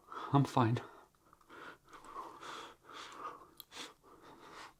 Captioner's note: breathing heavily